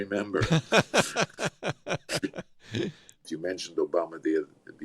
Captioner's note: laughs